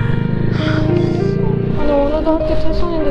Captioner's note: Sigh